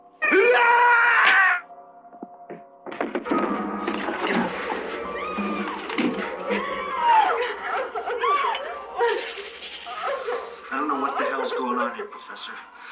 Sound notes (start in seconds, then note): 0.2 man screaming; 1.1 neck breaking; 3.2 tense music; 6.4 sobbing; 6.4 women yelling